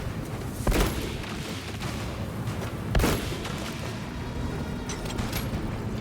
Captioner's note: gunshots